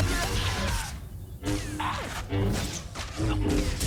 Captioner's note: grunting